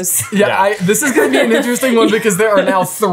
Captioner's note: laughing